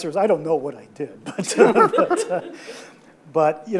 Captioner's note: audience laughs